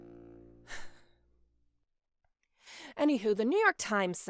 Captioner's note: exhaling